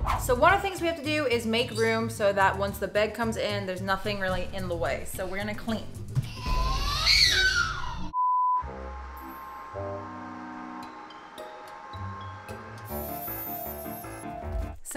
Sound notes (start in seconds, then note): 6.2 baby screams; 8.2 lost connection beep; 8.5 slow music; 13.2 fast-paced music